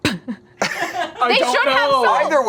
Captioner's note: chuckles